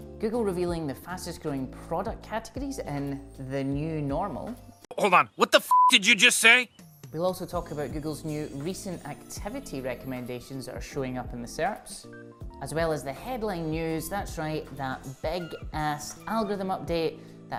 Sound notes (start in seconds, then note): 5.6 beep